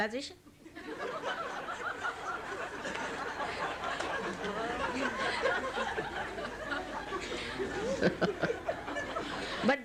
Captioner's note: laughter